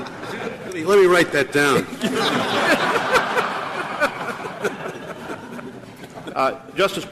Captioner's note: laughter; laughter